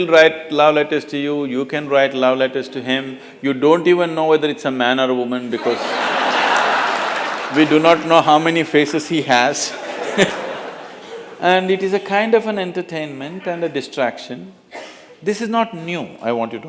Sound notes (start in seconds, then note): 6.9 laughter; 9.6 laughs